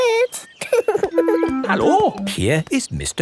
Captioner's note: laughing